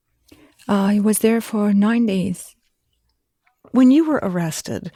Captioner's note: none